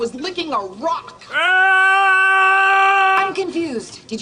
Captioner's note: solitary scream